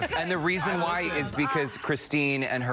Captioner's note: laughter